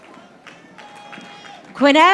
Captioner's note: audience applauding